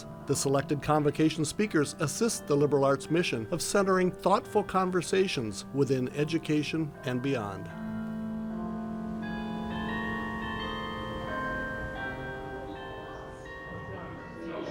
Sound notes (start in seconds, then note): 7.9 bells continue chiming; 11.1 audience chattering